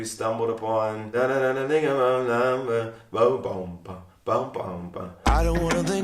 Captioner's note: hums melody of " "